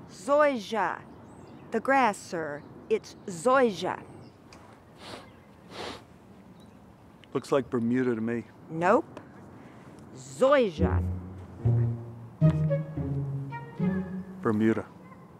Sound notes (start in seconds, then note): 5.6 sniffs; 10.8 comical instrumental music playing